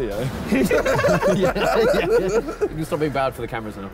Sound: all laughing

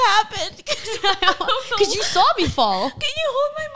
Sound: laughs

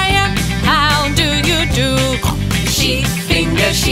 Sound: pink grunting

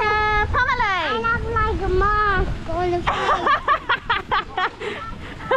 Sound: laughs

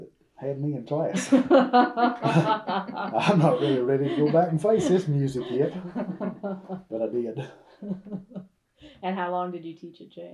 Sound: laughter

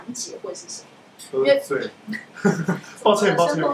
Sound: laughing

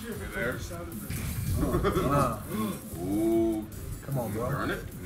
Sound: laugh

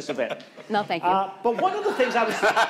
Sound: laughing

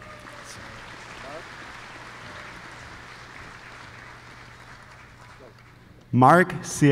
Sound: applause

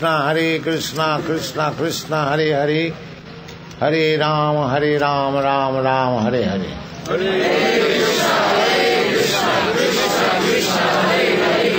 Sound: crowd repeats

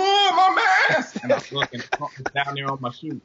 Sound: laughs

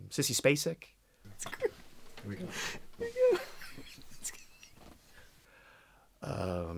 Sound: laughs

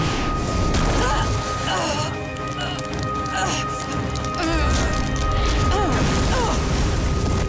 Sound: grunting

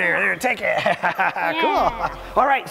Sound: laughs

